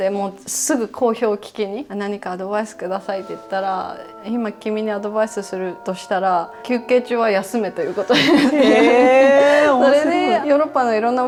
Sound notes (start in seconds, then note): 8.1 laughs